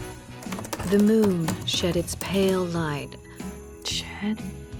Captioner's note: typing